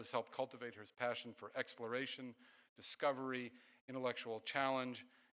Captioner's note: none